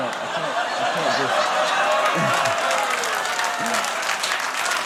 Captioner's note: audience amused laughing